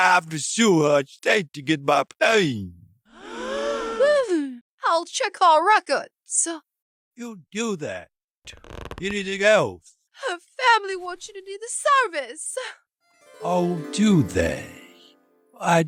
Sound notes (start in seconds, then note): 3.1 gasp; 3.1 gasps